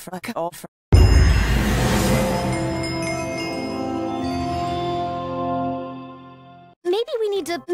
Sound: minecraft advancement

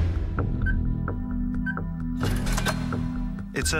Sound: beeping

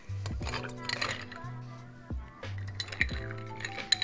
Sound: ice rattling

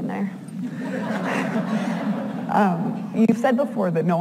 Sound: audience laughs

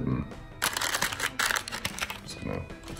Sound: crinkling

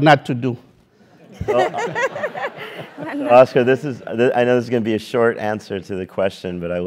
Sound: laugh

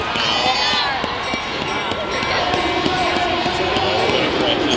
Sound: bell ringing and crowd cheering

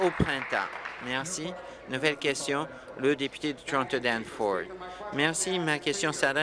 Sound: applause

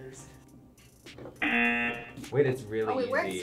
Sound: buzzer

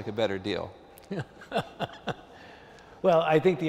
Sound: laughter

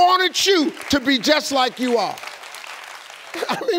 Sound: audience clapping

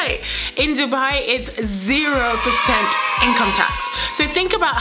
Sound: kids cheer

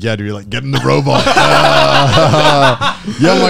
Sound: laughing

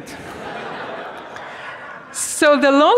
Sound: students laughing

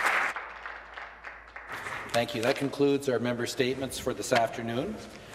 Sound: some Applause

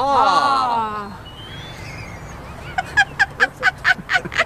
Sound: laughter

